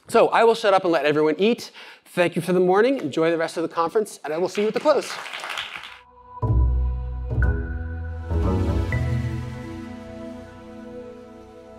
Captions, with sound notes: So I will shut up and let everyone eat. Thank you for the morning. Enjoy the rest of the conference. And I will see you at the close. [APPLAUSE] [AUDIO LOGO]